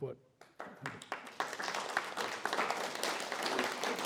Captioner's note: applause